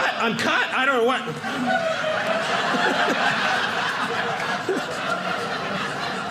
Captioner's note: audience laughing